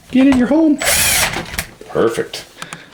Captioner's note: whirring